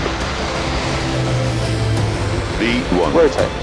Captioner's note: plane engine roaring